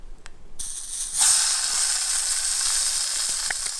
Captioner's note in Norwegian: fisken freser i panna